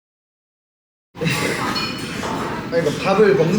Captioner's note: laughing